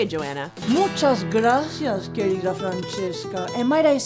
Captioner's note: speaks in foreign language